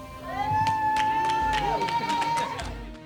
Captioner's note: cheers and applause